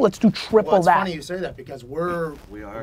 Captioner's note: pat